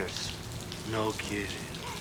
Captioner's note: laughs